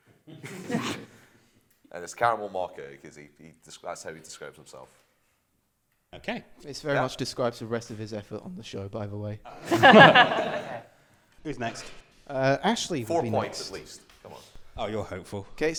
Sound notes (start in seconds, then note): 0.2 laughter; 9.5 laughter